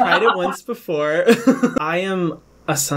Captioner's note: laughs